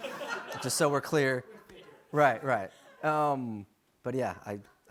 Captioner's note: laughter